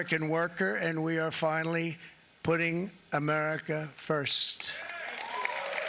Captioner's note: applause